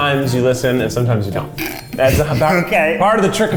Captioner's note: laughs